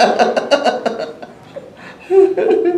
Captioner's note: laughs